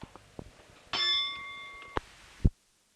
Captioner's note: bell Sound